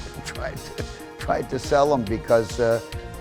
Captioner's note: laughs